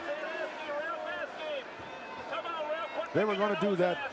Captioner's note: crowd murmuring